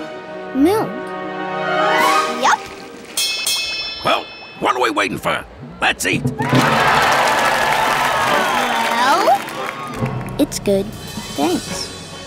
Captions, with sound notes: -Milk. -Yup! [bell ringing] Well, what are we waiting for? Let's eat! [cheering] -Well? -It's good, thanks.